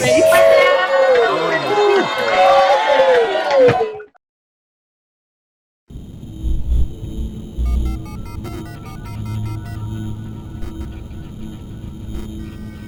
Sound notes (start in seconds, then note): 0.1 all applauding; 6.1 logo buzzing